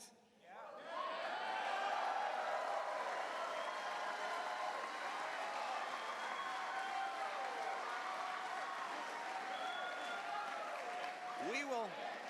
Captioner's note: cheers